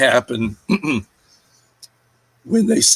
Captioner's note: clears throat